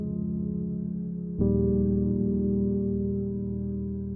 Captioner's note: none